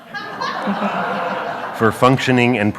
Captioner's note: audience laughs